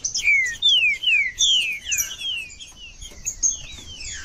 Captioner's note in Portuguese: trinca ferro cantando